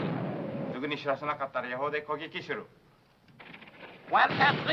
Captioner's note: speaking foreign language